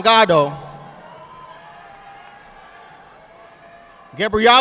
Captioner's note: audience applauding